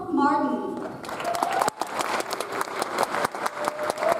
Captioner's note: audience applauds